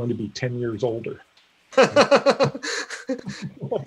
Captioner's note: laughing